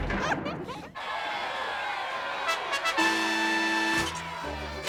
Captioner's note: cheering